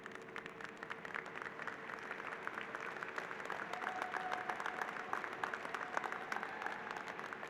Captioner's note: applause